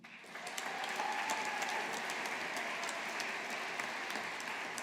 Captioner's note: audience applauding